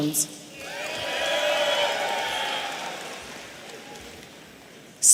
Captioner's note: audience cheering